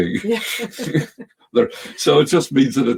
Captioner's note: both chuckling